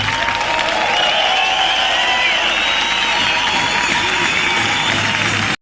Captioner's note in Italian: Applauso